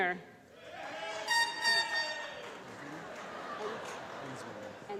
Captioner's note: applause and air horns tooting; laughter